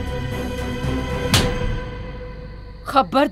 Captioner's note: Slaps